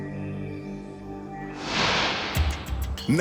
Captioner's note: smoke whooshing